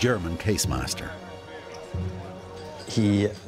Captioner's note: indistinct chatter